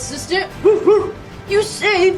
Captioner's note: barking